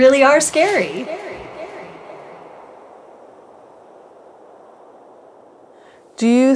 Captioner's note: sound of Breeze